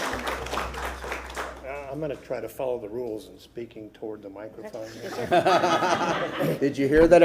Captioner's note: applause